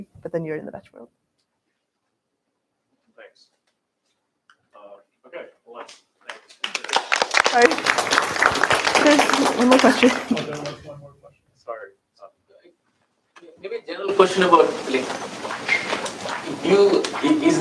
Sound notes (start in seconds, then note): 6.2 applause